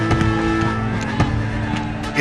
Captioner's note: horses whinny